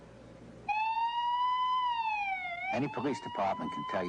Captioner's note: siren wailing